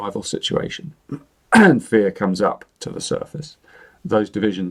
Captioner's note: clears throat